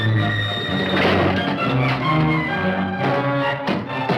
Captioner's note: bang